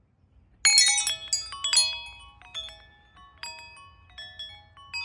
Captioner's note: wind chimes ringing